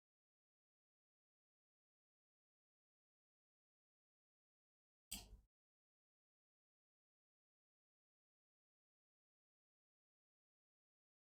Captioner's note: blank Audio